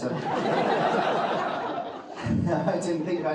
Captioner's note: audience laughing